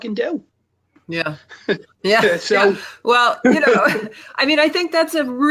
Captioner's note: laughs